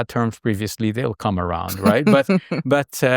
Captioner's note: chuckling